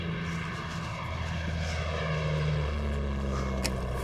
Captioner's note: plane passing overhead